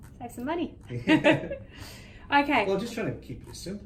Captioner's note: chuckles